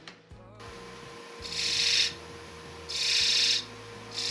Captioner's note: machine whirring